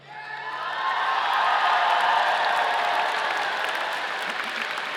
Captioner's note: audience applauding